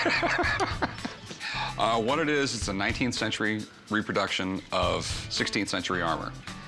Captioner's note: laughs